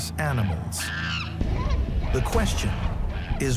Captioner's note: animal wails